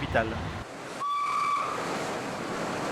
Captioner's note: whistle